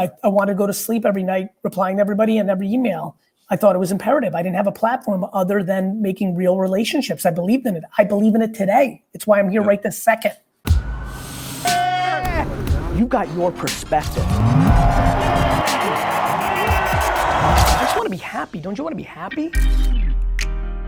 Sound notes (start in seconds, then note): 12.2 upbeat music; 15.6 crowd cheering